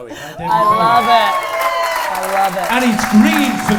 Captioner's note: cheers